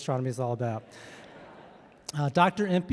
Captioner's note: audience laughing